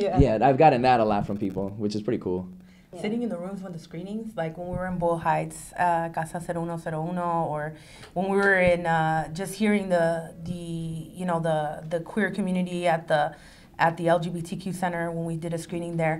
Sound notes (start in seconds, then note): 5.8 foreign language